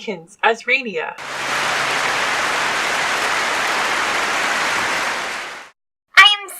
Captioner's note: clapping